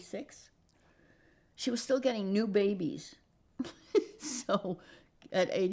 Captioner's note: laughing